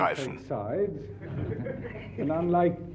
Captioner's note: audience laughs